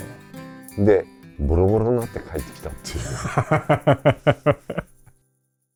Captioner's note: laughs